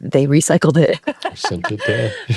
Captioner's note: laughing